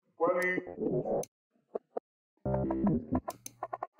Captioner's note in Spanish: voz distorsionada